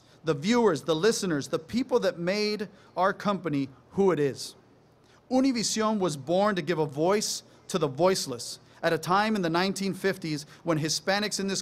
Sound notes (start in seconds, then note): none